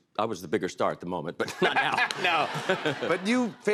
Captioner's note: laughs